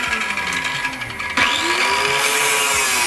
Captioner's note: saw Cutting Metal